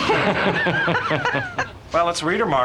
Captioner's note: laughter